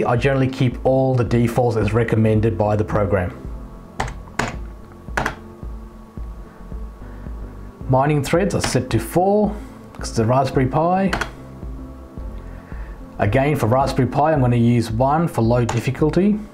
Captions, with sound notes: I generally keep all the defaults as recommended by the program. (keyboard typing sound) Mining threads are set to "4" because it's the raspberry PI. (keyboard typing sound) Again for Raspberry PI I'm going to use "1" for low difficulty.